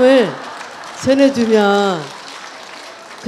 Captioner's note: audience Laughter